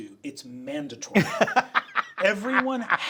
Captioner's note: Sam laughing